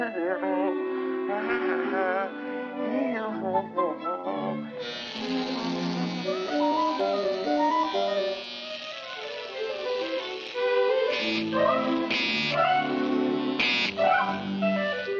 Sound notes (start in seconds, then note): 4.7 razor buzzing; 5.1 gentle music